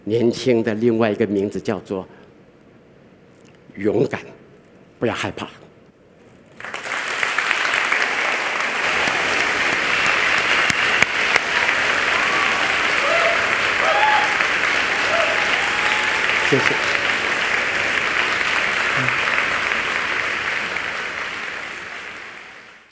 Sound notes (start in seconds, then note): 6.7 applause